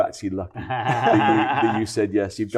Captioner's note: chuckles